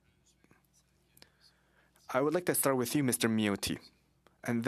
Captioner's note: speaking French